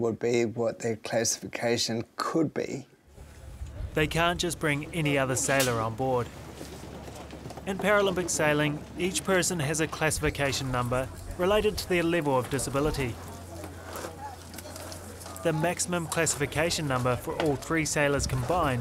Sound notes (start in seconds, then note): none